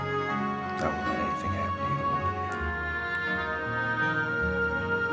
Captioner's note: dramatic orchestral music; Steve muffled